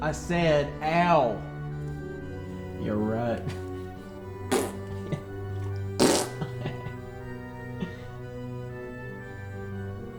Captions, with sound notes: I said ow. Yeah right. (goofily vocalizing) (chuckling)